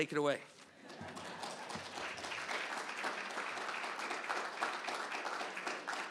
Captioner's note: applause